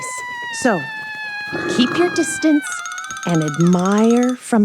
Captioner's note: Derps Scream, Brian roars